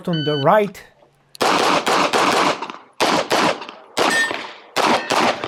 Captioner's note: gunshots banging; targets pinging